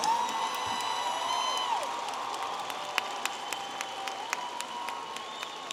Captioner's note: audience applauding and cheering